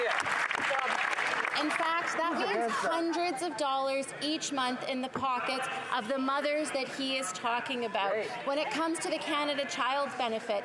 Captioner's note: applause